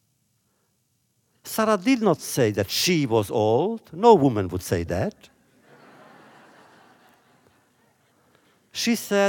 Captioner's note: laughter